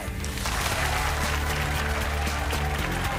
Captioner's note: applause